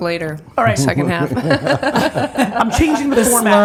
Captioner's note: laughing